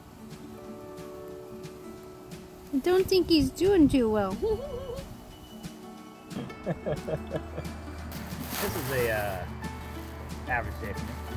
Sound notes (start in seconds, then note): 6.3 OS giggles; 8.0 while laughing